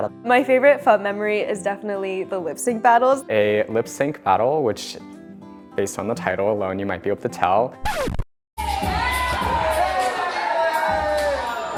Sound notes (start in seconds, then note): 7.8 record Scratch; 8.6 cheering and music